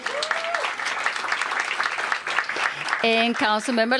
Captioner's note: applause